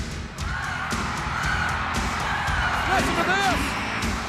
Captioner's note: upbeat music; audience cheers